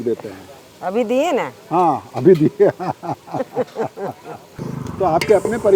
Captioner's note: laughs